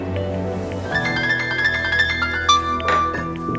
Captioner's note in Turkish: Telefon çalıyor